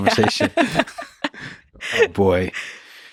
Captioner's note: both laughing